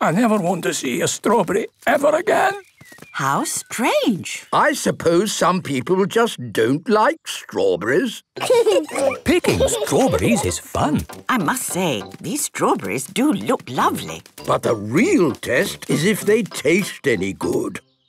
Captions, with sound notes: - I never want to see a strawberry ever again! - How strange! - I suppose some people just don't like strawberries. - (laughing) - Picking strawberries is fun! - I must say, these strawberries do look lovely! - But the real test is if they taste any good.